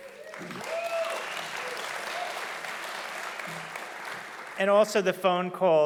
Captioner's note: audience applauding loudly